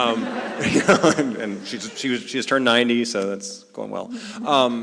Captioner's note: laugh